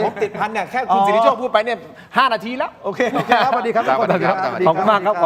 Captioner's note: laughter